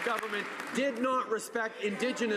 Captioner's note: some applause